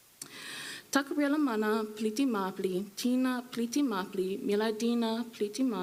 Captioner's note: speaking foreign language